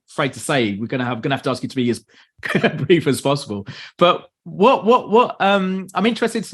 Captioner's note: laughs